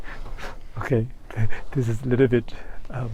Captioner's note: laughs